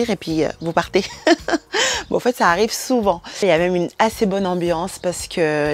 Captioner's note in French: rires